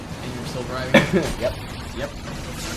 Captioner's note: cough